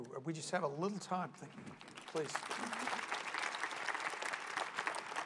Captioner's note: applause